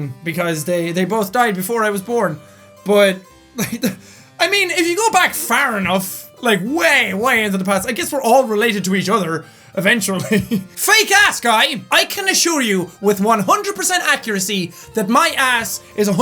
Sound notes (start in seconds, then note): 3.6 chuckles